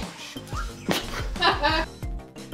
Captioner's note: both laugh